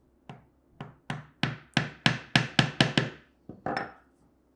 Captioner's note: chisel banging